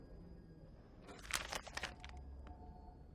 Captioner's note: paper rustling